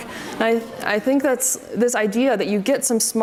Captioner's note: audience murmurs